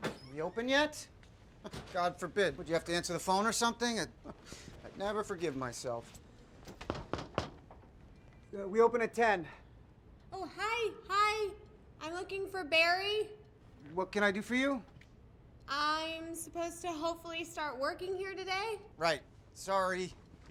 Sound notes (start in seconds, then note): 6.7 soft knocking